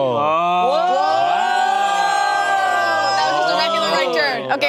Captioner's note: group exclaiming